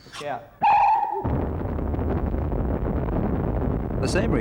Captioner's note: rocket Rumbles